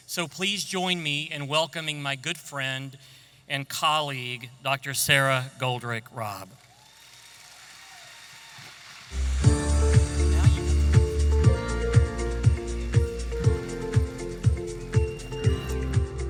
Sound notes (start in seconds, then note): 6.7 audience applauding; 9.8 energetic music